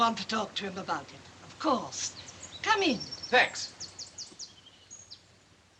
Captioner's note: none